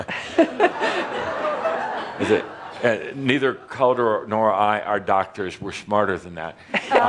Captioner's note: laughter